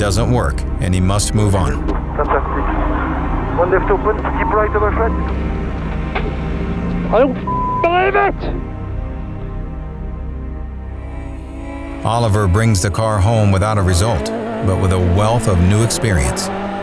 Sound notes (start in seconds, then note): 7.4 beep